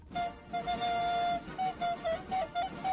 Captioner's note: horn honking